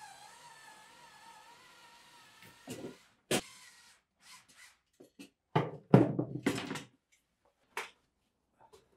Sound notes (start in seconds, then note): 3.3 tool whirring; 5.6 tool thumping